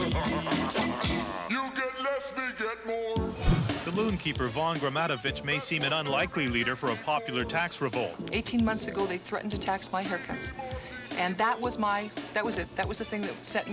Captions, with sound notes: day and night - [cackles] [deep voice] you get less we get more Narrator:Saloon keeper Vaun Gramatovich may seem an unlikely leader for a popular tax revolt. 18 months ago, they threatened to tax my haircuts. And that was my-- that was it.